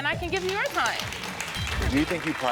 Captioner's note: audience applauding